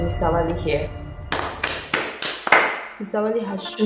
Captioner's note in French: applauds